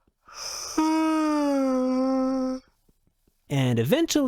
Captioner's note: yawn